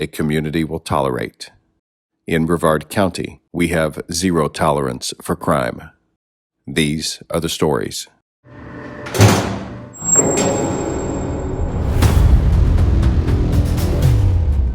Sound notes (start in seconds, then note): 9.0 door slams; 11.9 dramatic music